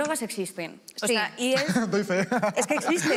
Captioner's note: laughter